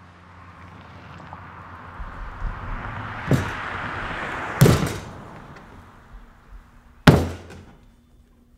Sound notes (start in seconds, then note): 0.0 car engine zooming; 4.6 thudding